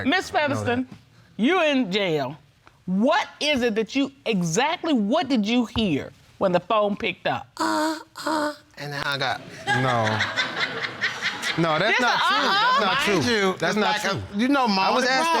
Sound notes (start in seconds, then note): 7.6 moaning; 9.4 audience laughing